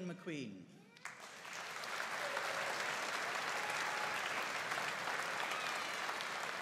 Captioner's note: audience cheering and applauding